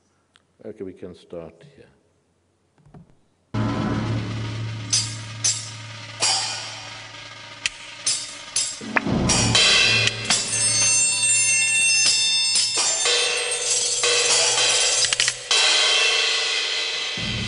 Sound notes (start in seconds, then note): 4.1 metal chiming; 9.4 ringing; 13.7 chiming